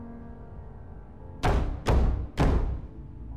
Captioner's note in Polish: Stukanie